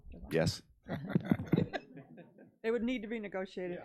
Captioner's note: board laughs